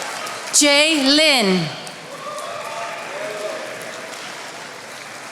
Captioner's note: attendees applauding